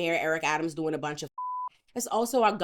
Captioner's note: beep